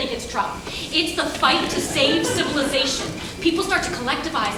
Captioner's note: audience laughs